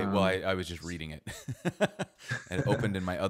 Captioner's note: laughs